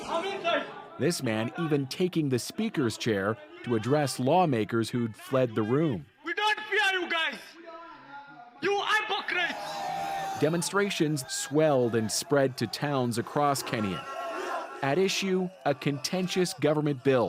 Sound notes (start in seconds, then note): 10.7 speaking alternate language